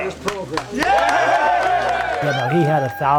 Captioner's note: crowd cheering